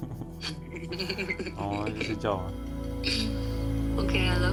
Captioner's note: laughs